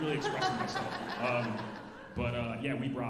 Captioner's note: alumni laughing